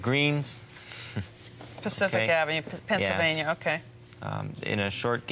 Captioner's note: chuckles